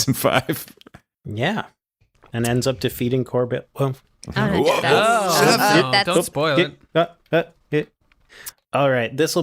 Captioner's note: shushing